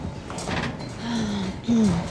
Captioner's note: sighs